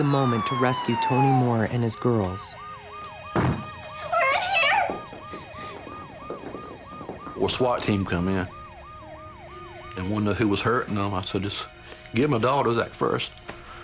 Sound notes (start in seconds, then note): 2.7 banging